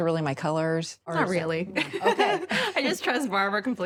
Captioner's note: laughs